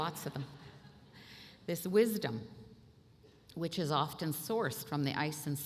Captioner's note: laughter